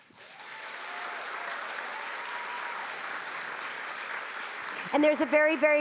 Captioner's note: audience clapping